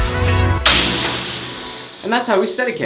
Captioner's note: water splashes